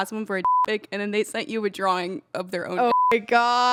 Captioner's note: beep; beep